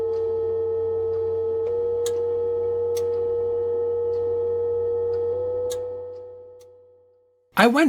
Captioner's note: annoying drone and sound of relay clicking